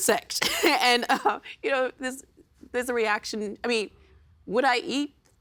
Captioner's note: laughing